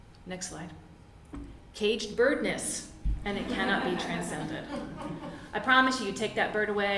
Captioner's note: laugther from audience